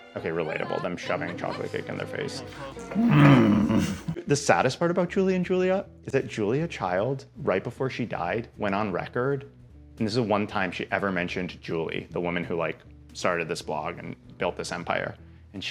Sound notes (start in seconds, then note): 2.9 groaning